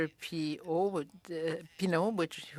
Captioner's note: speaking in French